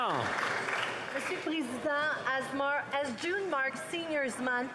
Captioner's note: some Applause